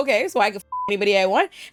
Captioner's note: beep